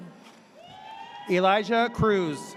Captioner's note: audience cheers